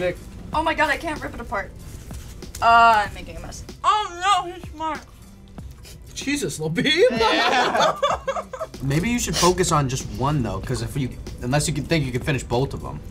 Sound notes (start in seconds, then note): 5.3 scoffing; 7.1 laughter